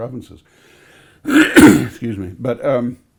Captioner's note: clears throat